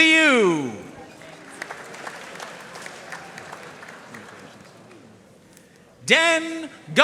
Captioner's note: audience cheering and applauding